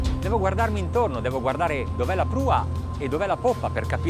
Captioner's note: speaking a foreign language